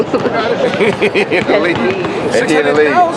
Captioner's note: laughter